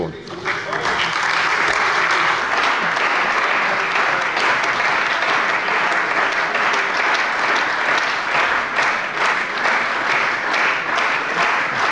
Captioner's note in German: Beifall bei der CDU und dem BÜNDNIS 90/DIE GRÜNEN